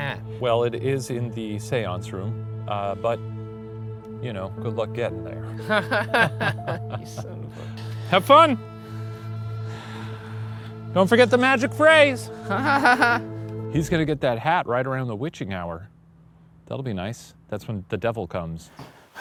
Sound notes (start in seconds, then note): 5.6 laughs nervously; 6.5 scoffing; 12.5 laughs nervously